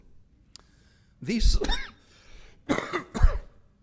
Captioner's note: coughs